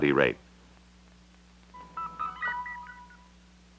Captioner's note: Electronic audio effects